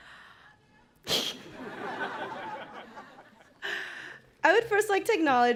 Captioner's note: laughing